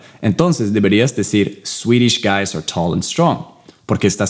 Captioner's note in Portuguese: Inglês